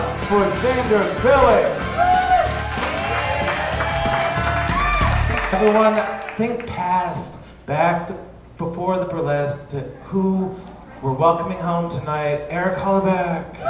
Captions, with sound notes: - Give it up for Xander Bilyk! (audience cheering) Everyone think past back before who we're welcoming home tonight, Eric Hollerbach.